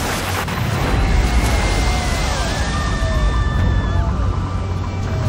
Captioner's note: woman screams